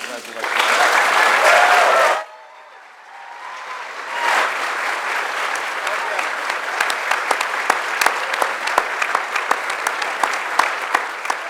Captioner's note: applause